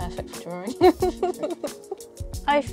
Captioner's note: laughter